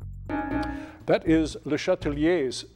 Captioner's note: bell dings